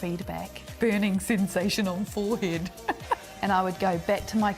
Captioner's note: laughing